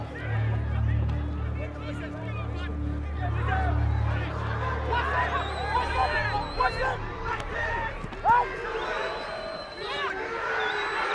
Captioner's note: shouting